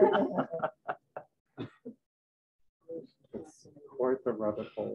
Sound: laughter

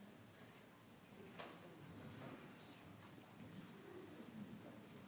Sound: people chattering

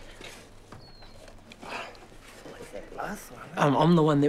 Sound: grunts

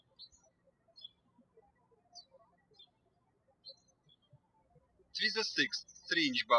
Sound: birds chirping

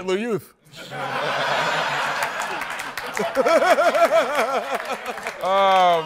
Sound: laughter

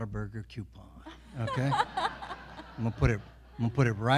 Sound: everyone laughing

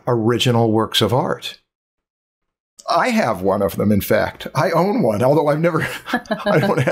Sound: chuckles

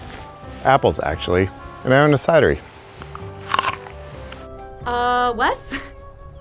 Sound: munching apple

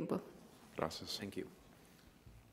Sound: man speaks in a foreign language

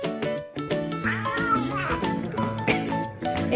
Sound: Beau growling

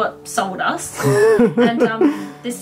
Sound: laughs

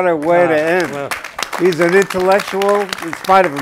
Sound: applauding

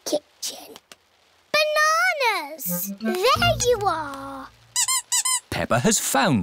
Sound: squeaking

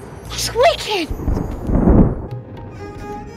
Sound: clouds thunder

